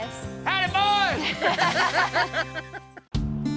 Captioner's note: laughter